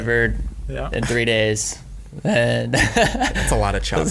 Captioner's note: laughs